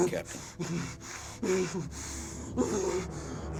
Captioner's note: shuddering, grunting